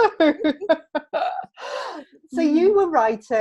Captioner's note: laughing